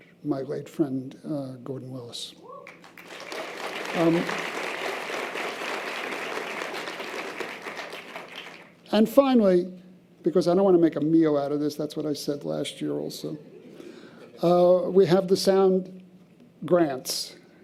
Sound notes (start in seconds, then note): 2.7 audience applause